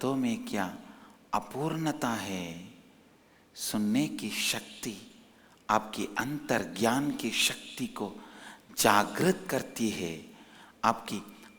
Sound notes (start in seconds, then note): 7.1 hindi